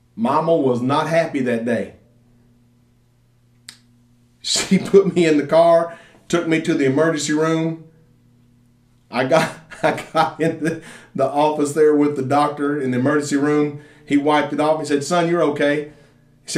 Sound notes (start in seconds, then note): 9.3 laughs